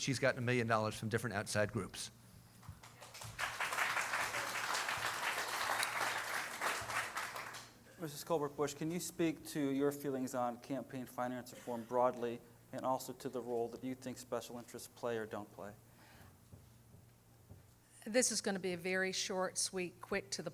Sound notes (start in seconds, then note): 5.9 applause